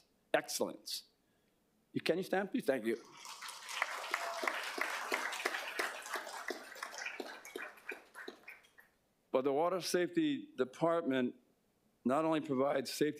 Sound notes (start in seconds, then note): 8.6 applause